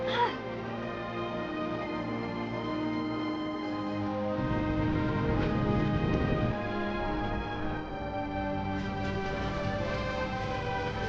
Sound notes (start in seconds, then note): 4.4 horse hooves